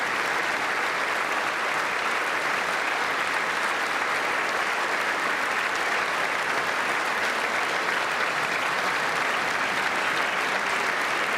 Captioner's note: applause